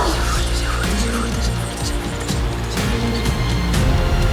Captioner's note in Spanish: susurra